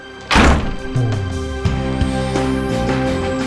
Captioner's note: door thudding